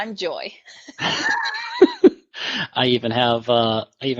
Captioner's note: both laughs